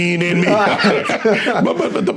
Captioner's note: laughing